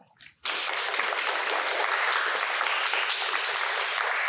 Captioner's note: applause